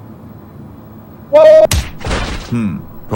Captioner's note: crying